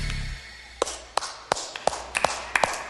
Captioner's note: Разпръснати аплодисменти